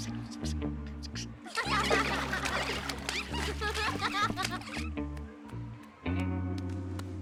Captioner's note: whispering; kids laughing; water splashing